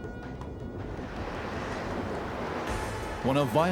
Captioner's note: dramatic music; rain pouring